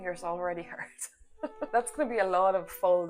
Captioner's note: laughs